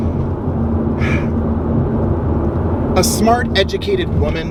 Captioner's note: sighs softly